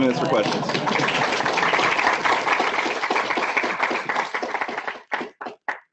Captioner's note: clapping